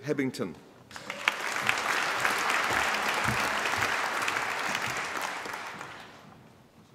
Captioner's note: applause